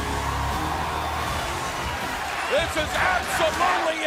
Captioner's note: crowd cheering